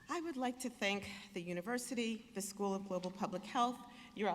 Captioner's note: none